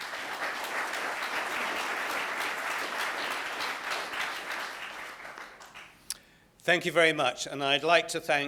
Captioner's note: applause